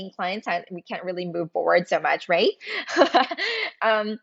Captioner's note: laughs